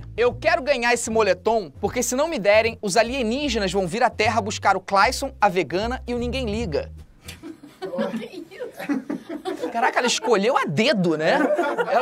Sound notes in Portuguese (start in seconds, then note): 7.3 risadas